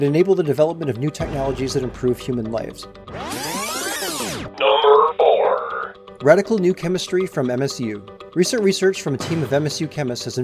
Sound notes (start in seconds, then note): 3.1 videotape trilling; 5.6 energetic music